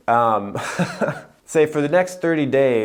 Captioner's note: laughing